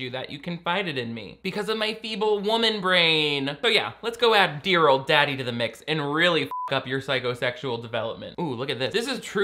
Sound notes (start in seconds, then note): 6.4 beep